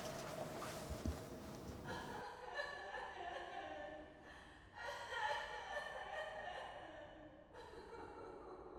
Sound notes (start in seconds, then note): 2.6 faint sobbing